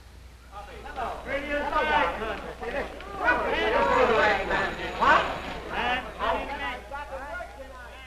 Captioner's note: office chatter